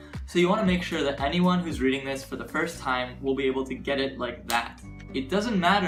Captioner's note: snap